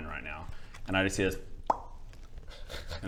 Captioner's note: pop